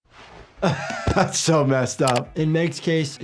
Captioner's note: chuckles